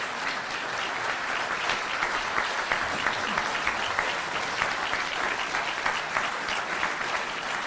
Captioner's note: applause continues